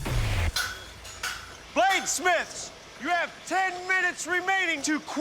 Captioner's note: clanging